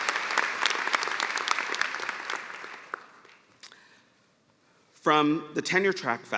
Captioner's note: applause